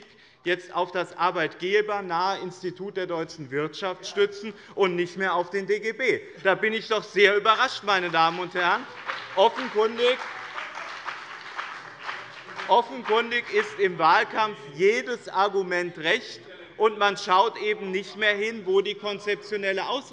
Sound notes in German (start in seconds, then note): 7.5 Beifall bei dem BÜNDNIS 90/DIE GRÜNEN und der CDU